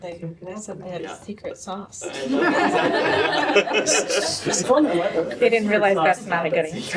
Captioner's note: laughter